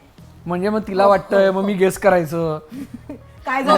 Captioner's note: chuckles